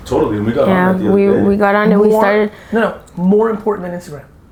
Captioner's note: murmurs